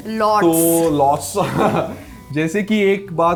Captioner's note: laughs